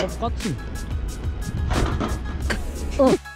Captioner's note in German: klappern